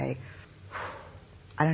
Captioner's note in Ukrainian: зітхання